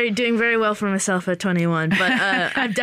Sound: laughter

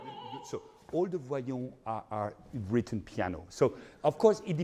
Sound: speaking in foreign language

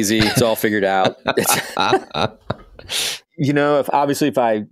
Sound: laughing

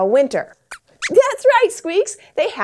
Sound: squeaks squeaks

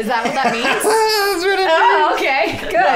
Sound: laughing

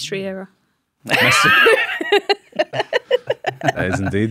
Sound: despairing mirth

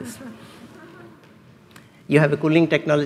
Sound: laughs

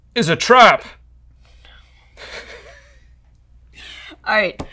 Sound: laughter

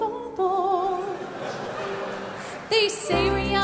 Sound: audience laughing

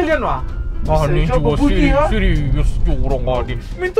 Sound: a warning sound

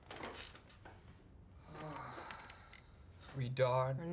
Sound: sighs

